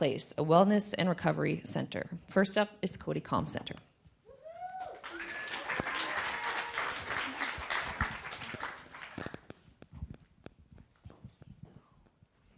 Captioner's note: applause